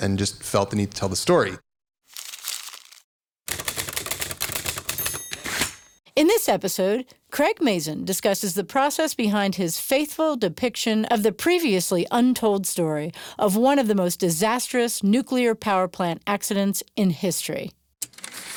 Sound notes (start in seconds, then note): 2.0 paper crumples; 3.4 typing; 4.6 typewriter ding